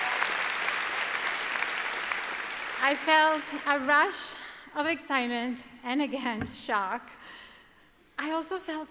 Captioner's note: applause